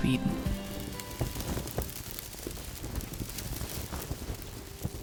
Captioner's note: fire crackling